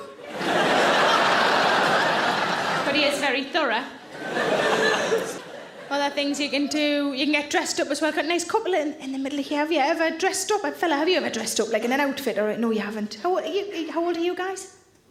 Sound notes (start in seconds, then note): 0.0 audience laughing